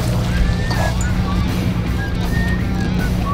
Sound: whistles

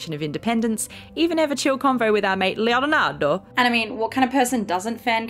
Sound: Italian accent

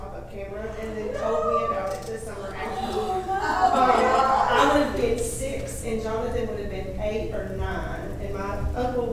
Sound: gasps from the audience

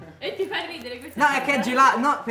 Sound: laughs

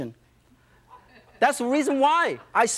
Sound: audience laughs

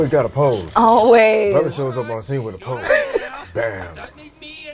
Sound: laughs

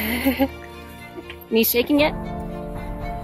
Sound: chuckles

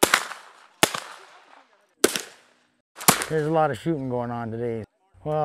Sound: crack! crack! crack!

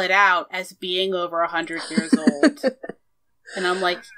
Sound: laughs

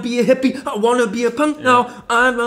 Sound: imitates yet another hard core techno beat

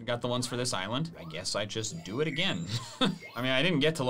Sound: laughs

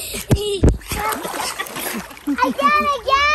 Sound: laughter

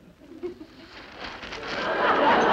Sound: newspaper crackling; crowd laughing

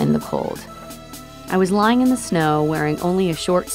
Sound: voiceover

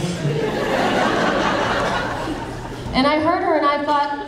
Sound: audience laughing

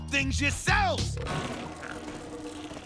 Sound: stomach growling

